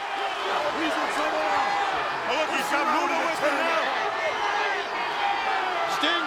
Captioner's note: audience cheering